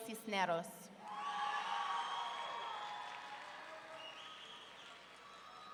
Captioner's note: audience cheering